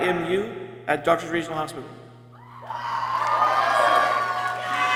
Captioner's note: people cheering